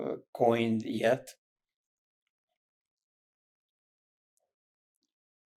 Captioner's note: pauses 8 seconds